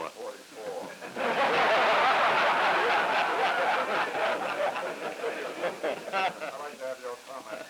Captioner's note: laughter